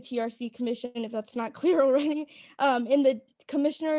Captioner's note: laughter